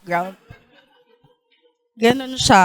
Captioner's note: laughter